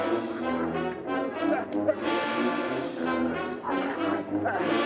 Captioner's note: groans